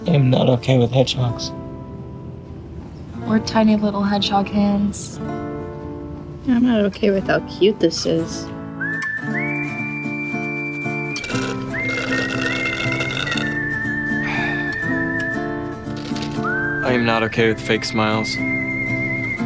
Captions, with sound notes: - I am not okay with hedgehogs. - Or tiny little hedgehog hands. I'm not okay without cute this is. (Wild West music) (drink slurping) - I am not okay with fake smiles.